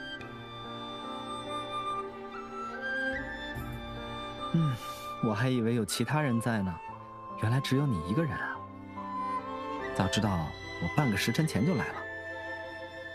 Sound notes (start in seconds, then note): 4.5 sigh